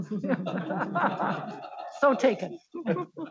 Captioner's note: board members laughing